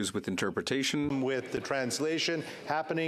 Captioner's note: speaking French